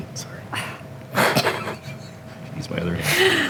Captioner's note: chuckling